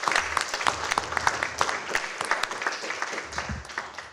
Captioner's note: applause